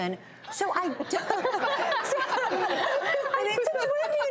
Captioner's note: laughs